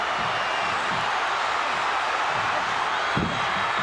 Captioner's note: audience cheering